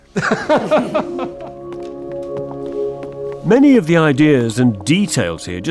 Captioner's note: both laughing